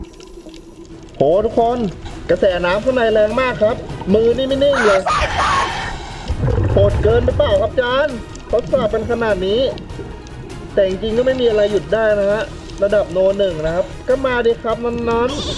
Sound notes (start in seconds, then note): 4.9 exhale; 5.0 inhale